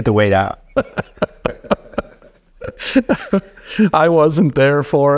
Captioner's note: laughing